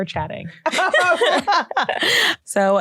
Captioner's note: laughter